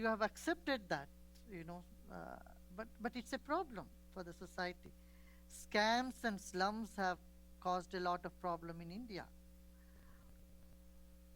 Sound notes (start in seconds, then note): none